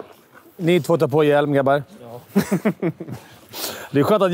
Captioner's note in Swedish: skratt